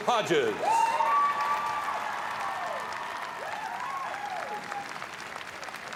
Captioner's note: audience cheering and applauding